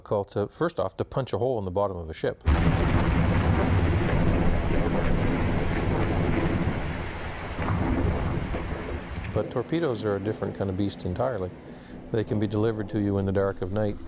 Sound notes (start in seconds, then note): 2.4 explosion booms